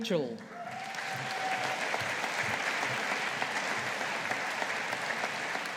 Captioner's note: audience applauding